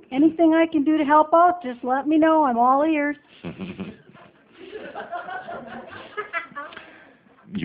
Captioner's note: audience laughter